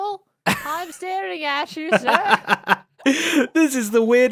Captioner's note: laughs